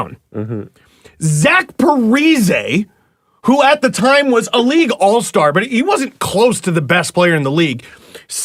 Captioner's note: incredulous